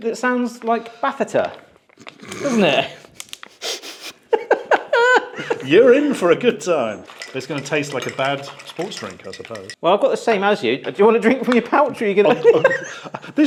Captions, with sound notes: that sounds like batheta, doesn't it? (both laugh) - You're in for a good time. (spoon clanks) It's gonna taste like a bad sports drink, I suppose. - Well, I've got the same as you. Do you wanna drink from your pouch, or are you gonna (laughs)...